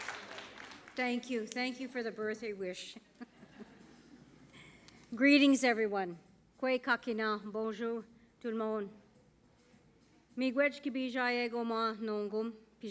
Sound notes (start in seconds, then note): 6.5 speaking Indigenous; 9.2 speaking Indigenous and French